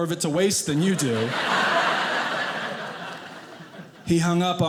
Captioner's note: audience laughing